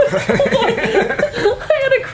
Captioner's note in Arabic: كلاهما يضحكون